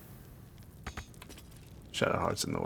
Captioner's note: none